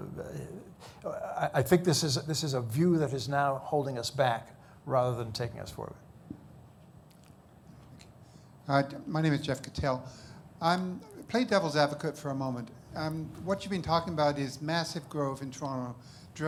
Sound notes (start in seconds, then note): none